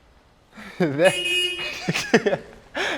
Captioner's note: car beeps; laughing